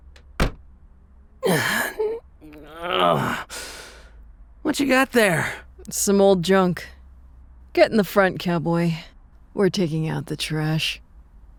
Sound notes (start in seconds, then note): 2.4 groans